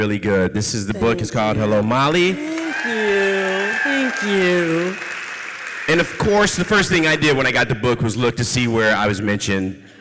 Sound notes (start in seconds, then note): 2.3 audience cheers and applauds